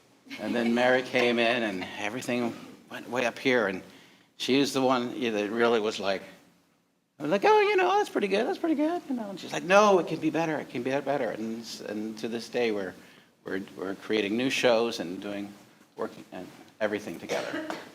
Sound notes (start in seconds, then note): 7.2 in high pitched voice; 9.2 regular voice